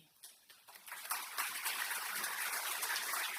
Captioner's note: applause